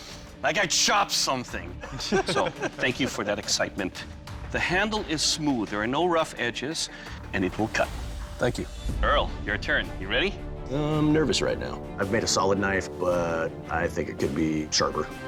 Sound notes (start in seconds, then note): 1.8 laughter